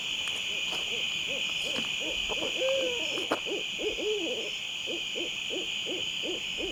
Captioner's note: insects chirping; owl hooting